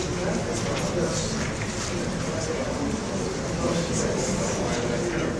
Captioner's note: audience murmurs